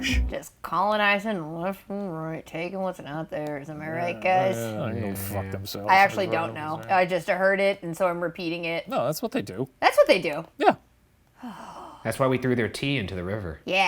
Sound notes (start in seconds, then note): 11.4 sighing